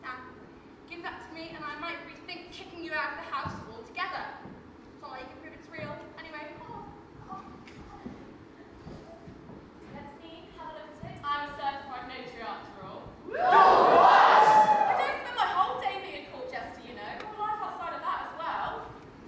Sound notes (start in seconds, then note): 13.2 audience cheers